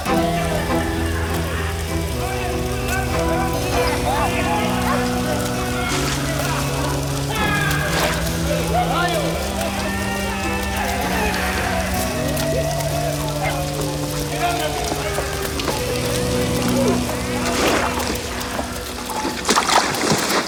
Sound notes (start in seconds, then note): 5.8 water splashes; 14.4 gang members chatter; 17.4 water splashes